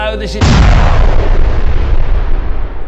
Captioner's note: explosion